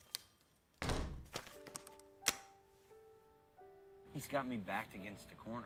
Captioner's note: door opening, closing